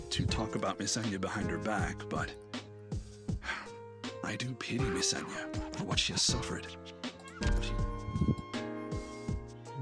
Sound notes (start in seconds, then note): 3.4 sigh